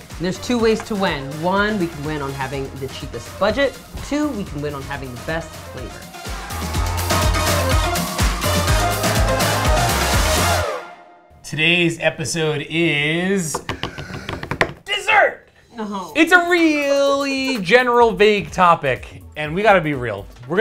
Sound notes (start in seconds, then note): 6.0 upbeat music; 13.5 hands bang against wood